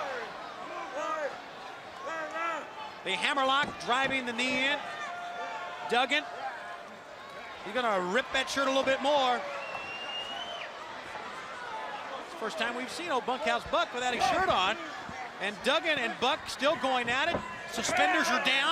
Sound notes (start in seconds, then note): 0.1 crowd chatter; 10.0 crowd chatter